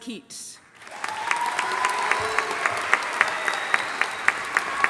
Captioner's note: audience applauding